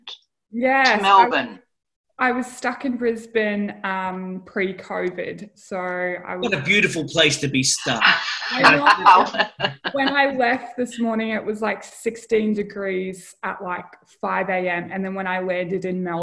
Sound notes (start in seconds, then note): 7.8 laughter